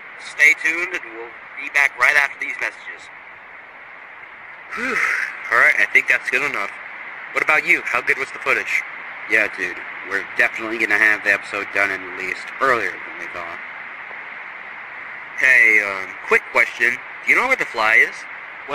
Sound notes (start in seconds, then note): 4.7 sigh